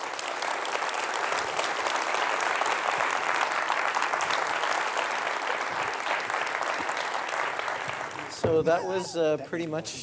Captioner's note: appaluse